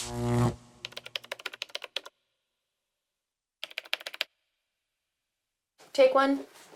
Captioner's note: typing